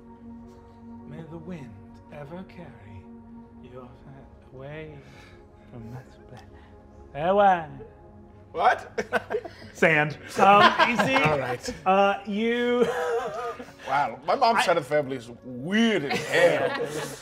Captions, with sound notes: May the wind ever carry your away from (murmuring)." - What? - Sand. - Alright. Wow. My mom's side of the family is weird as hell.